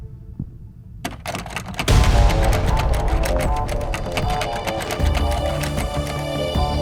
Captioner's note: doorknob clattering; intense music